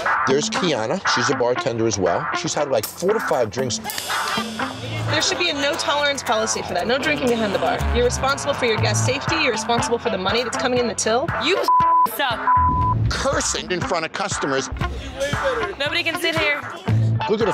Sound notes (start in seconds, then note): 11.4 beep